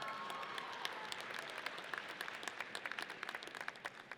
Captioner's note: audience cheers